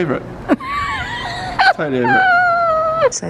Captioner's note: laughing